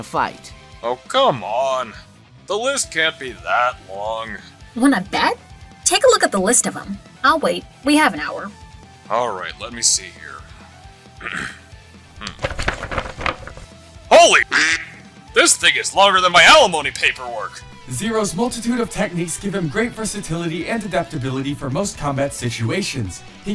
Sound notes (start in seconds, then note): 14.4 quack